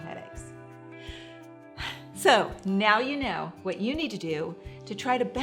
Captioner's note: sighs deeply